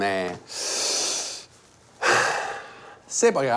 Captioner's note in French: respiration profonde